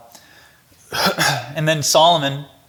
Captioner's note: coughs